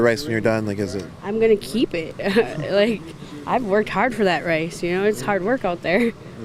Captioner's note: laughs